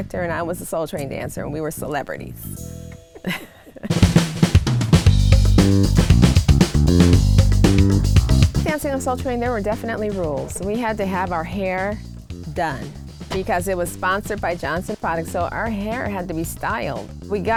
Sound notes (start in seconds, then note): 3.2 laughs; 4.7 upbeat music